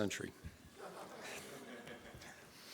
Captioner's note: laughs